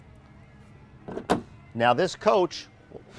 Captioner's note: door closing